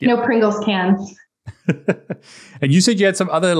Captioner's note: laughs